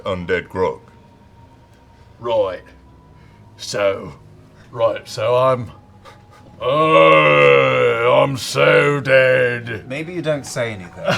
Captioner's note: Grog voice